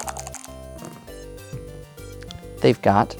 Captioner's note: dice rattling; dice rolling